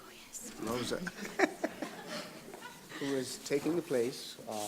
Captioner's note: laughs